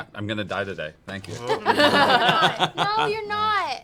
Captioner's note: laughter